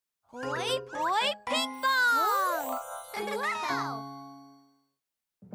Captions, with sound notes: -Hoi Poi, Pinkfong! -Whoo! -[laughs] -Wow!